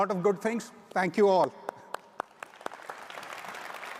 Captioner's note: claps; audience applauds